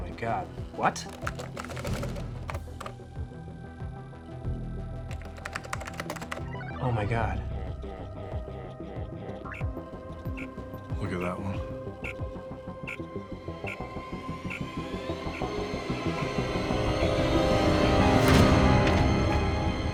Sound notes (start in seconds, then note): 0.9 keys tapping; 16.5 dramatic music